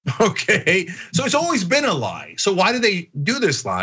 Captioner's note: laugh